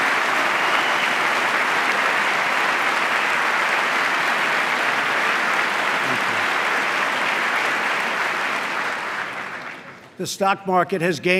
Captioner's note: applause